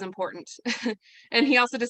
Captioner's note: chuckles